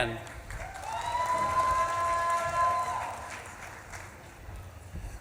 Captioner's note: audience claps and cheers